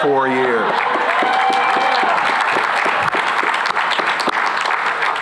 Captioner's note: cheering and applause